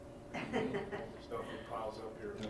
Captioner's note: laughing